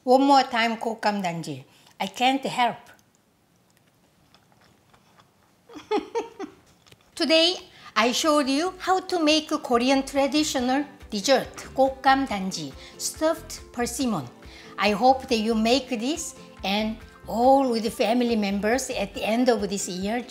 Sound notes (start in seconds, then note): 3.6 food smacking; 5.6 laughing